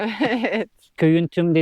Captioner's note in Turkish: kahkaha